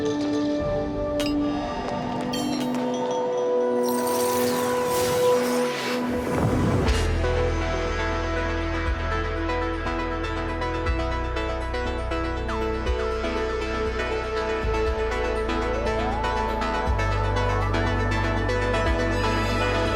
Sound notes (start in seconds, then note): 2.1 tinkling